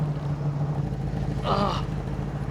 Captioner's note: vomiting; groaning